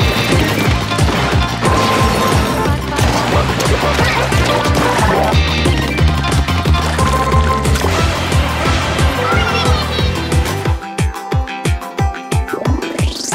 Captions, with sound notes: OCTOSTOMP MY BEAUTIFUL OCTOSTOMP MY BEAUTIFUL [More octo sounds] [More octo sounds]